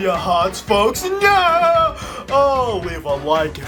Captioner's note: laughing